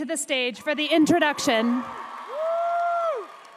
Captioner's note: applause